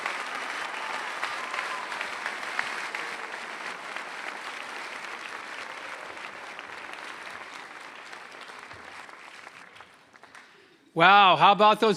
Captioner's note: applause